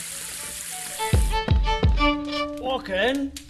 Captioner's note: knock on the door